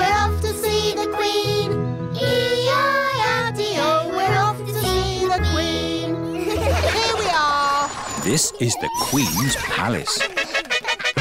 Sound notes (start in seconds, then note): 6.4 all giggle